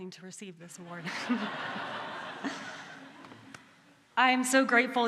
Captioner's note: laughter